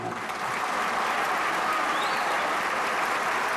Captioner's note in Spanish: Aplausos